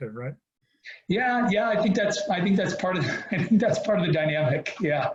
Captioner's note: laughs